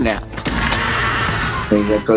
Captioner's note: Eddie screaming